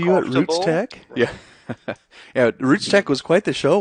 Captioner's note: laughs